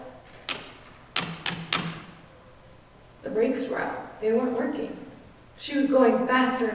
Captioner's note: stomping